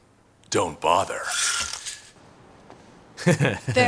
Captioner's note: blinds rattling; laughs